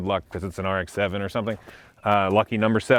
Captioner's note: birds chirping; hands clapping